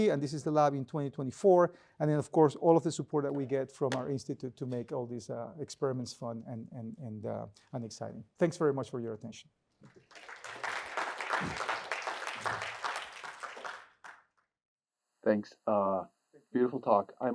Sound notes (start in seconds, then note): 9.8 applause